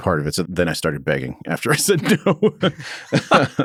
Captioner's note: laughs